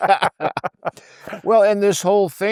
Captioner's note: laughing